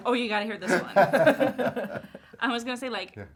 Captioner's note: all laughing